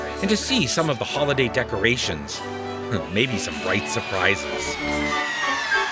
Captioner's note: crowd cheering